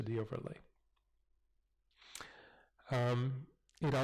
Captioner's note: pause